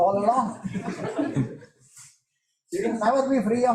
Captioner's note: chuckling